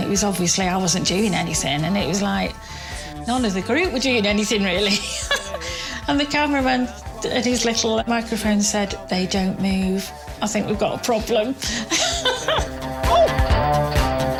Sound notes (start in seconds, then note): 5.8 laughs; 10.3 laughs